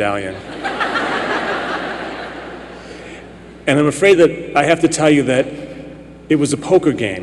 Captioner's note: laughter